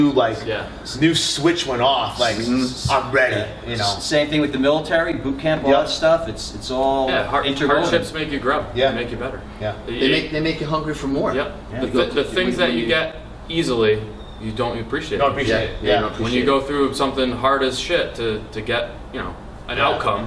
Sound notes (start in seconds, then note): none